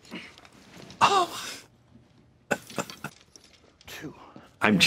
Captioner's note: chuckles